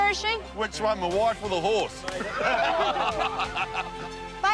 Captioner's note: laughs